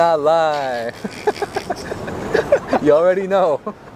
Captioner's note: laughs